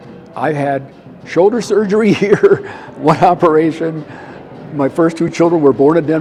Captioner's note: laughing